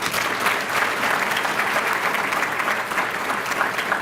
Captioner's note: applause